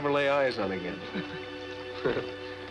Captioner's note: laughing